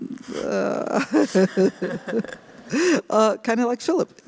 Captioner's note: laughter